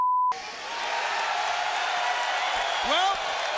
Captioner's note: crowd cheers